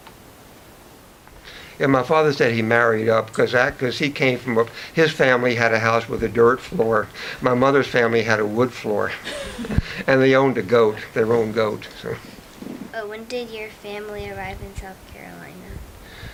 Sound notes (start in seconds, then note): 0.2 silence; 9.2 woman off-camera chuckles